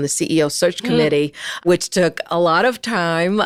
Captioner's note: laughs